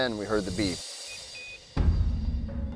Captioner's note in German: Kragen Signaltöne